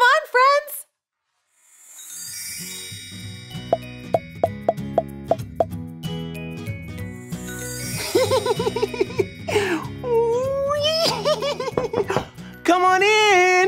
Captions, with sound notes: - Come on, friends. (light upbeat music) (man giggles) (knocking) - Come on in!